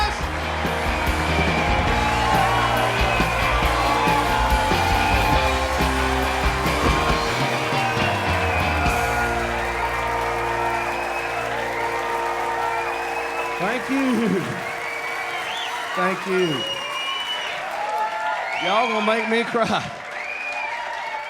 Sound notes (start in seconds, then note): 0.3 audience cheering and applauding; 7.7 upbeat rock music ending; 13.0 audience cheering; 16.9 audience cheering and applauding; 20.1 audience cheering and applauding